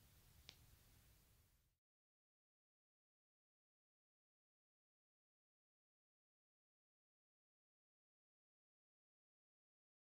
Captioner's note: silence and inroads logo